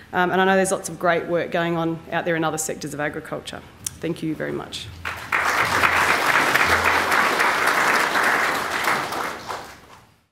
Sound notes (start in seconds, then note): 5.0 applause